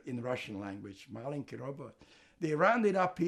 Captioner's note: russian